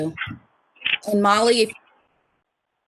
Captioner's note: speaker muted